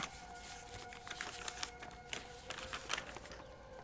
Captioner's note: paper rustling sound